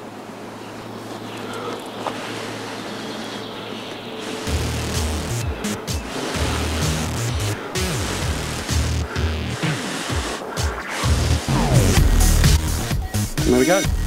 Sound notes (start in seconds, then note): 0.7 blowing